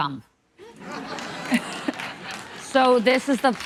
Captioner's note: audience laughing